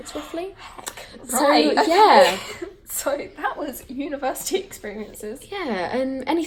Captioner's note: gasp